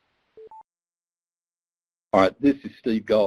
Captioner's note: beeps